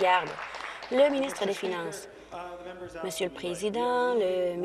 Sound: applause

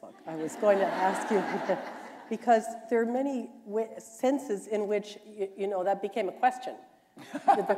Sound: laughter

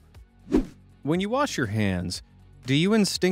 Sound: swoosh

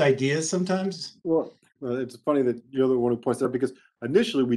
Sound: speaking faintly

